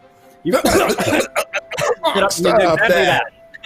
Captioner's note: mimic coughing